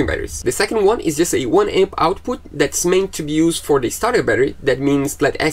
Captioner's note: engine